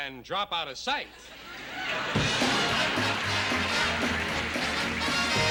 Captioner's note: applause